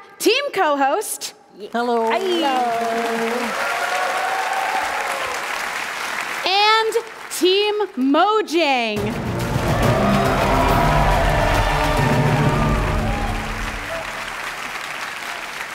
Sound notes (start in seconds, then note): 6.4 cheering; 7.5 applause; 11.9 cheering; 12.8 applause